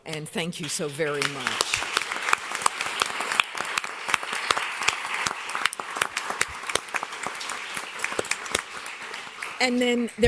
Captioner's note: applause